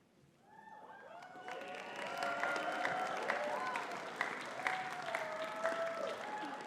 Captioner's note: audience cheering and clapping